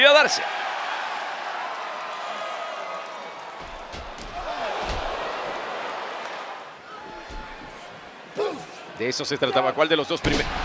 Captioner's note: applause